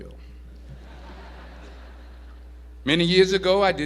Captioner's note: audience laughs